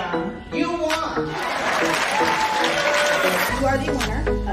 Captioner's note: audience cheering